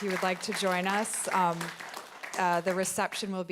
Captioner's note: audience applauding